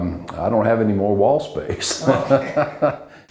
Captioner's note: laughs